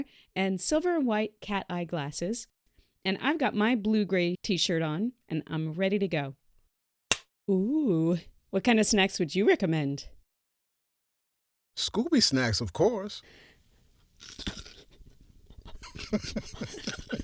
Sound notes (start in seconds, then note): 7.1 slate claps; 14.5 outrageous crunch; 15.9 both trying hard to not laugh, crunch-crunch-crunch